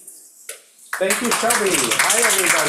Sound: audience applauding

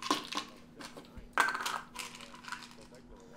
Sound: pills clattering; pill bottle landing

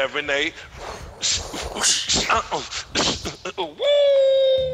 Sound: both beatboxing

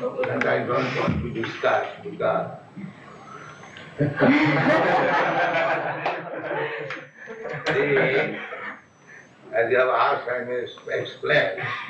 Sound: laughs; laughter

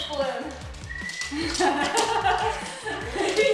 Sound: laughter

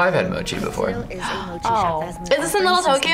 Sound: gasps

